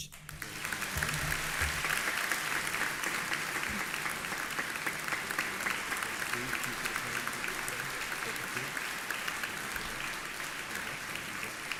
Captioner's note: applause